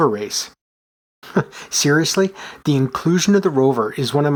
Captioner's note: chuckles